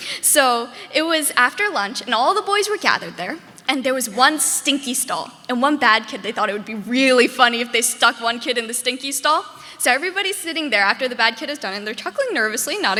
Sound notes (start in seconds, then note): none